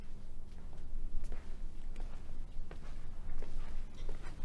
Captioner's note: footsteps tapping